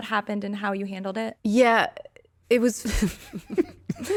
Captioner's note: laughing